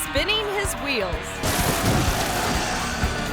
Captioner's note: biker thuds; triumphant music